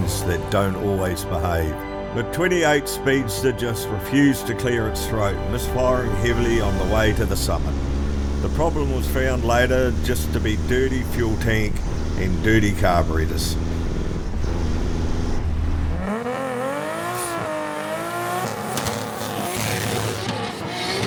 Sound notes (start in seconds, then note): 16.3 engine revving; 20.8 upbeat music